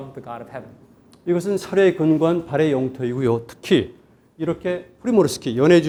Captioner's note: speaking in Korean